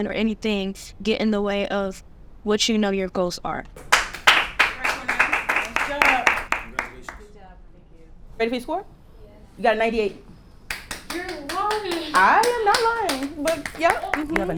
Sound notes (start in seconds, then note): 3.8 audience clapping